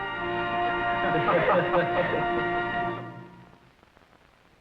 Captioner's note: chuckling